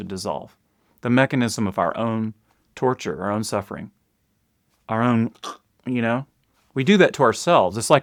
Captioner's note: mimics choking